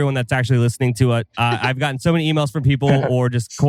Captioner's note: laughs